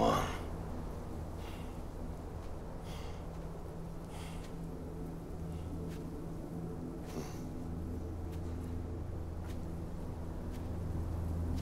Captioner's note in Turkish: Rüzgar sesi